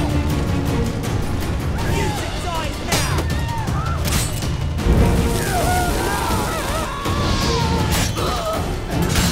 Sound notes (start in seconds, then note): 4.7 flames crackle; 5.4 scream; 8.5 cries out